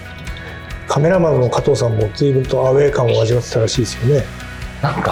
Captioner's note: laughs